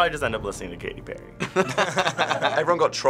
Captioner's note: both laugh